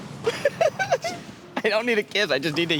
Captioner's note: giggling